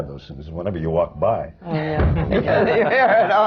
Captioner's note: stamps his foot; laughter